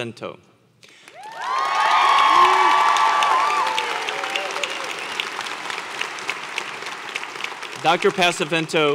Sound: applause

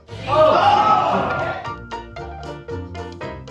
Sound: group groans

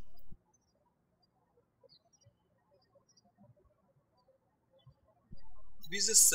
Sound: birds chirping

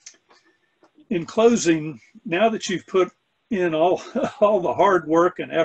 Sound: laughs

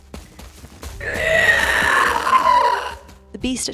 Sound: 🐯👸terrifying beast princess yell🐯👸

